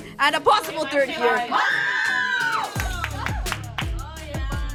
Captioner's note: cheering